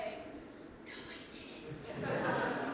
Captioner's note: whsipering